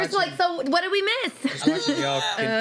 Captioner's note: laughs